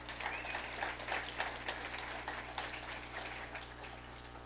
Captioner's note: audience applauding